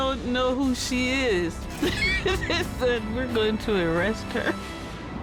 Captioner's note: laughs